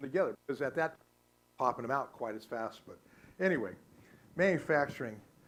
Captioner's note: static